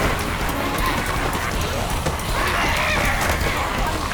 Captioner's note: fighting, snarling, screaming